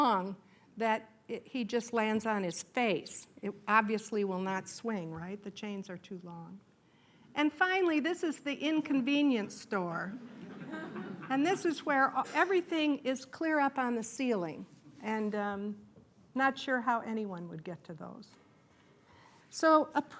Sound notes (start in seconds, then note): 10.2 laughter